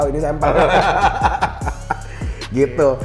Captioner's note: laugh